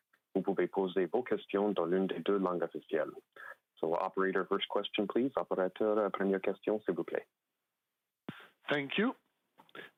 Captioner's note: speaking French